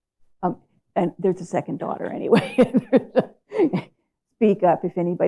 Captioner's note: laughs